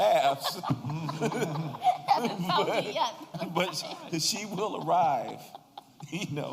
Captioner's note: laughter